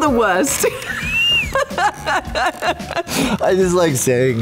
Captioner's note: laughs